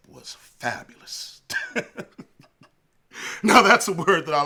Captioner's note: chuckles